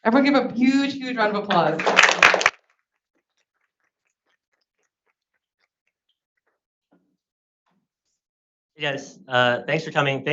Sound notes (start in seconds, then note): 1.4 everyone applauds